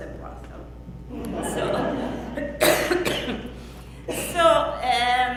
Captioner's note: audience laughs loudly